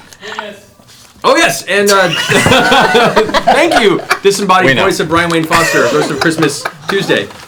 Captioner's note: laughing